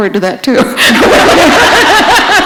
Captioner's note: laughter